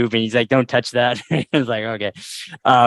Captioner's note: laughter